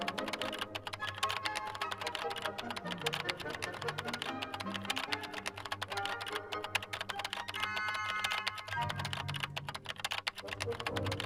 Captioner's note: keyboard continues clacking